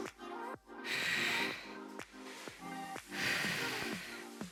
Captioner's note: oxygen breathing